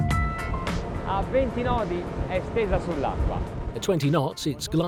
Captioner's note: speaks Italian